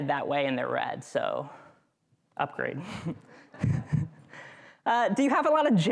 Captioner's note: chuckles